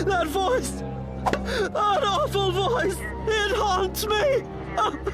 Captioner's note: sobbing; Reginald sobs loudly